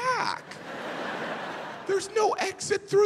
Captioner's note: audience laughing